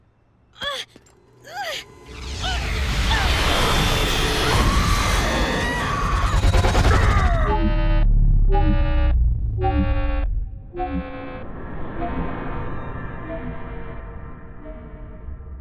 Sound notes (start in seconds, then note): 0.6 grunting; 4.3 screaming; 7.2 beeping